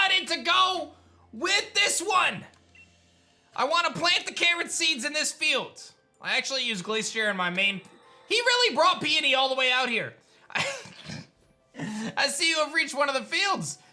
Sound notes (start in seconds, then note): 10.5 giggles